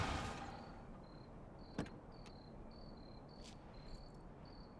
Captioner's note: crickets chirping